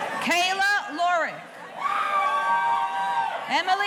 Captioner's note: audience cheering; audience cheering